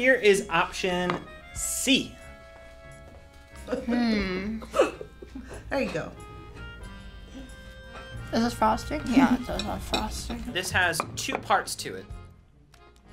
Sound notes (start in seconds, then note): 4.6 laughs